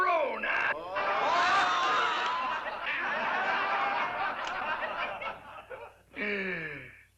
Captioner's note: laughter